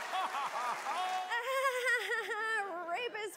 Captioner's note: awkward laughter